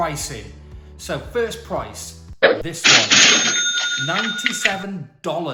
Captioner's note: cash register chimes